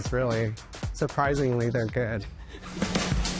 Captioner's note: laughs